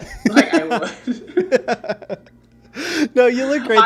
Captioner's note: laughing